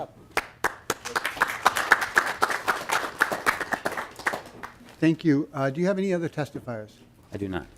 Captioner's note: applause